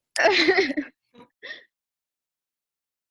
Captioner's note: chuckles